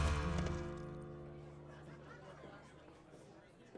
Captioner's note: laughing, talking